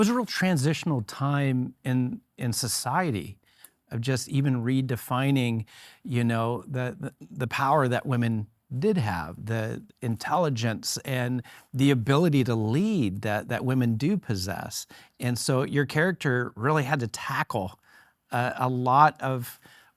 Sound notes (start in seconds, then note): none